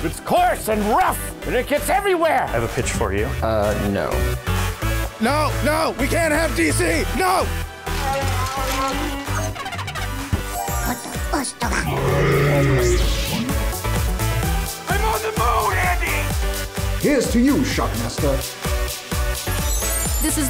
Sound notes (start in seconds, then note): 8.0 trills; 11.7 growls